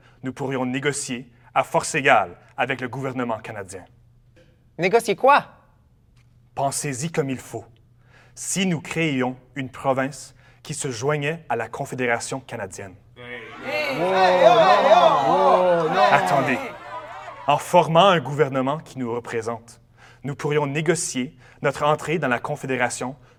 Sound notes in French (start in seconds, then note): 13.2 Protestation de la foule